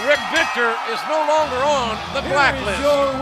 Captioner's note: bell ringing